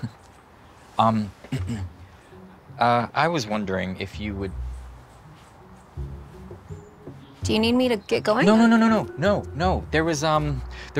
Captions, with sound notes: Um-- *clears throat* Uh, I was wondering if you would-- Do you need me to get going? No, no, no, no, no! No, no. There was, um...